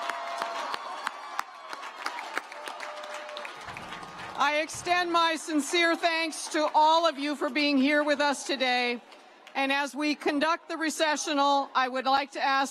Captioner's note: cheers and applause